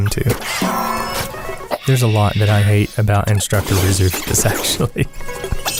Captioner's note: haha